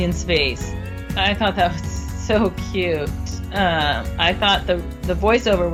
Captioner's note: chuckles